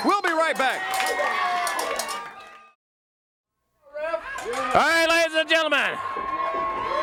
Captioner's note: crowd cheering